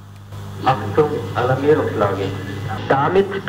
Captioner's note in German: verzerrt